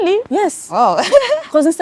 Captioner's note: laughs